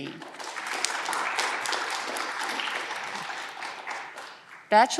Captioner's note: audience clapping